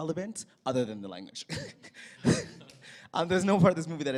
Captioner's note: laughter